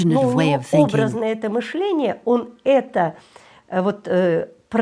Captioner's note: Russian spoken audio